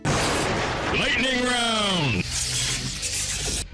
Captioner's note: intense male voice